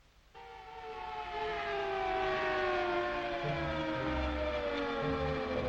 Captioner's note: Juggernaut siren wailing